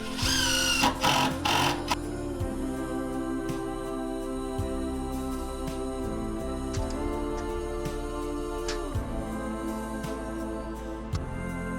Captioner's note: drilling